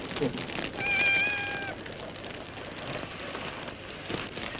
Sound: cat mewing

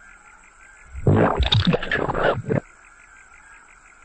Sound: muddy suction gulp

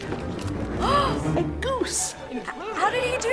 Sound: gasps

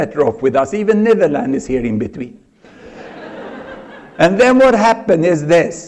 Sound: laughter

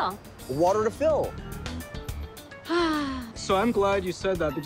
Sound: sighs

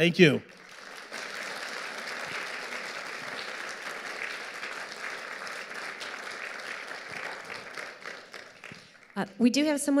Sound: audience applauding

